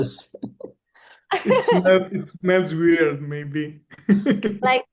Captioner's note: laughs; laughs